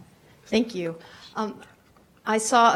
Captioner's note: voiceover